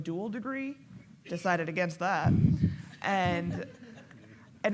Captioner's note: laughing